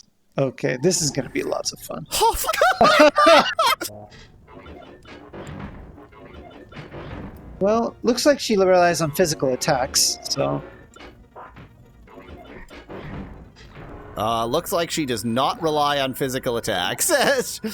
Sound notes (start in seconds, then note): 0.6 laughs